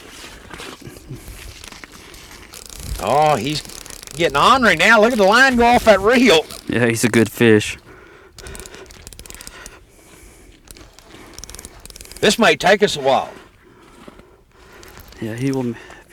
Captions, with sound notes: aw he's getting ornery now look at that line go off that reel yeah he's a good fish [Reeling, heavy breathing] this might take us a while he's